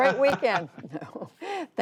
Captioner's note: laughter